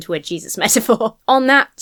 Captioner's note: laughs